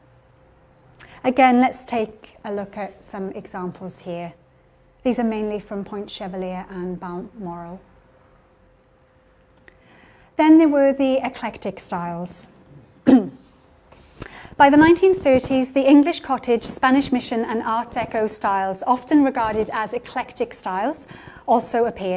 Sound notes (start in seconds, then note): 12.7 clears throat